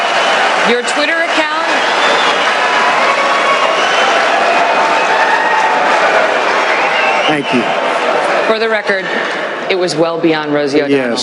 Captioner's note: interrupted by cheering